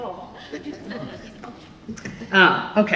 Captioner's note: laughter